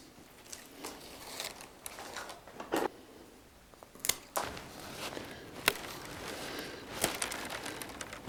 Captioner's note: sound of knife cutting